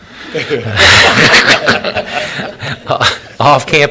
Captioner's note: laughter